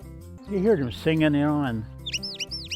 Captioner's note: birds singing